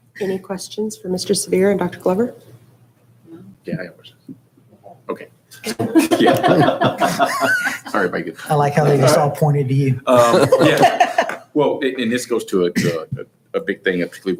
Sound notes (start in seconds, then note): 4.5 hushed speaking; 5.6 chuckling; 10.0 laughing